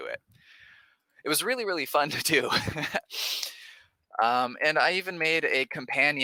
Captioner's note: laughs